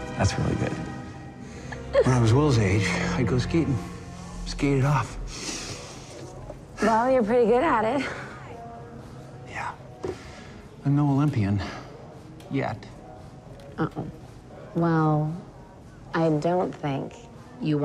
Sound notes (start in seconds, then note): 1.8 Vivian giggles; 5.2 breathes deeply